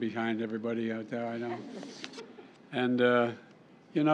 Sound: laughter

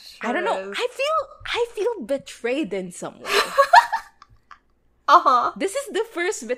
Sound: laughs

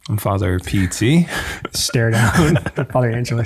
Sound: chuckles

